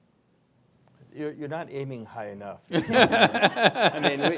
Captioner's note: laughter